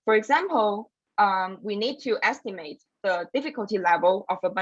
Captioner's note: none